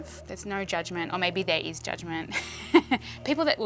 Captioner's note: laughs